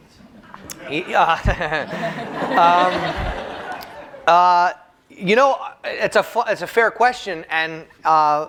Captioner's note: chuckles